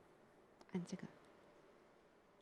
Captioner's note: Mandarin